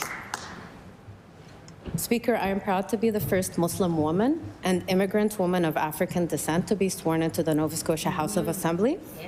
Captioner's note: applause